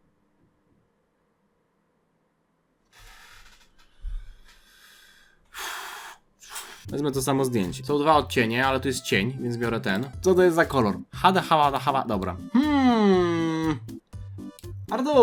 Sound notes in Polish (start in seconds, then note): 5.5 westchnienie; 6.1 wciągnięcie powietrza